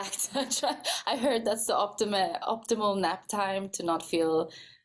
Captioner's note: laughing